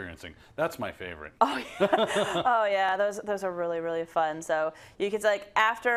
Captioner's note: laugh